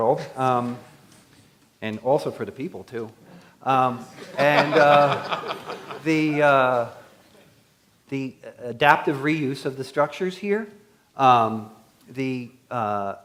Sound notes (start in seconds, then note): 4.1 laughter